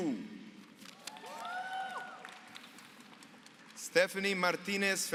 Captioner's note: applause